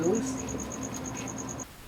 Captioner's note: crickets singing